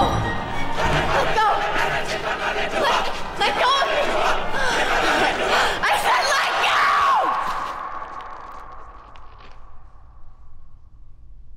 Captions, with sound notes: Let go. Let... let go of me! [yells] I said let go!